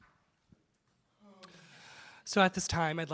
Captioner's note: exhales